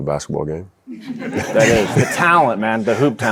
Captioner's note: audience laughing